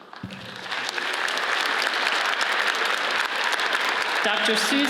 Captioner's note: audience applauds